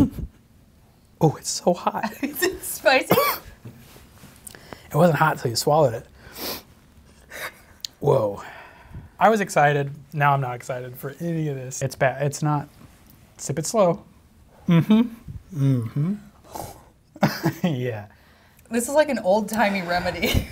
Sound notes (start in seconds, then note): 0.3 chuckles; 3.0 coughs; 17.2 chuckles